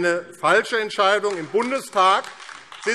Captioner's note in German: Beifall AfD